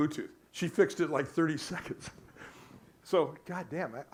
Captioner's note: laughs